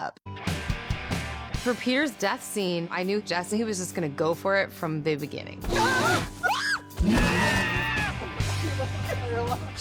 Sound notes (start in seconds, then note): 5.7 screaming; 5.7 screams; 5.7 yelps; 7.0 growling